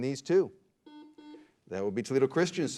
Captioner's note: beep